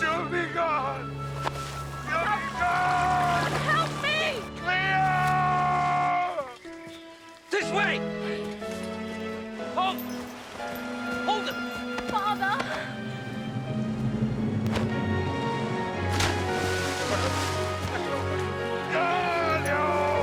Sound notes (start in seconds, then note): 13.2 dramatic music; 15.6 splashing